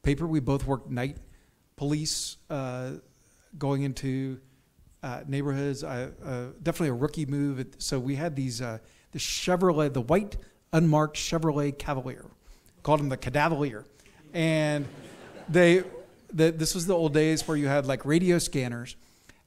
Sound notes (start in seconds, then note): 14.1 audience chuckles